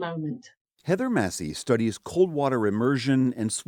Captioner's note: voice-over